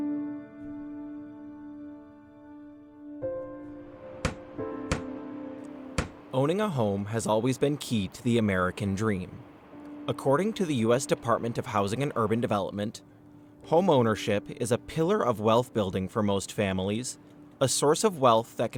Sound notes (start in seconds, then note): 0.1 solemn music; 5.8 hammering